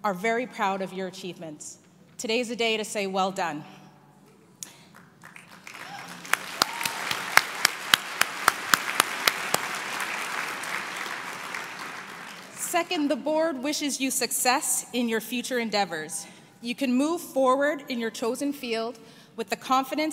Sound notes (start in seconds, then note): 8.8 applause